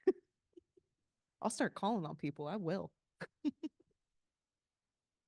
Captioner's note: laughing